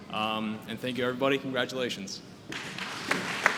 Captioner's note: applause